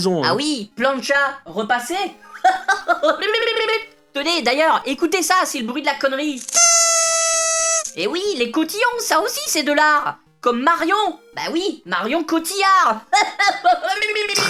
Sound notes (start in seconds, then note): 6.4 sound of a serpentine